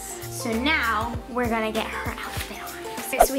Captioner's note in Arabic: none